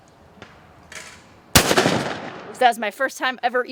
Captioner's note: shot banging